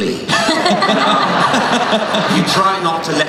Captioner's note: laughing